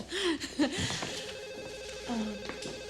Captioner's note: phone ringing